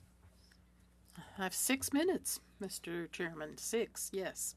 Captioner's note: speaking French